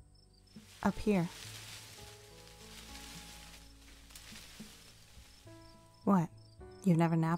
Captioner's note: branches rustle